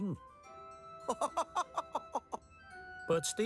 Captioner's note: laughter